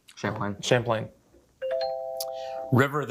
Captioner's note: bell dings